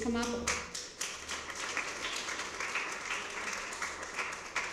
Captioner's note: applause